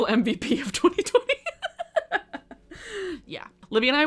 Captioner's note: chuckles